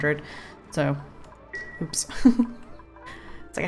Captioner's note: laughs